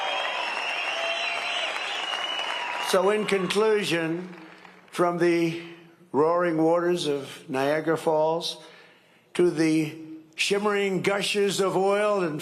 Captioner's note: cheering and applause